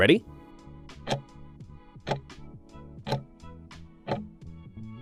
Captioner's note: timer ticking